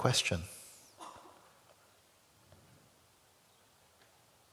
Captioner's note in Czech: ticho